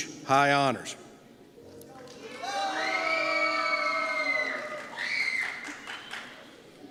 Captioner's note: cheers